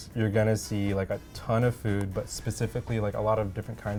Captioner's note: none